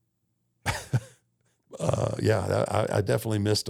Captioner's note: Undertaker chuckles